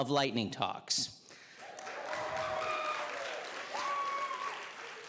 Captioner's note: audience cheering